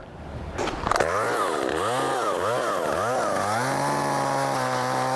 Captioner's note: machine roaring